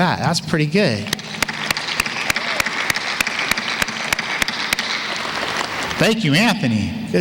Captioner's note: applause